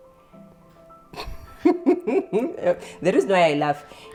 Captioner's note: chuckling